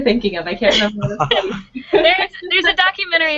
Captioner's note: laughing